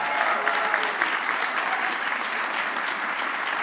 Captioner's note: applause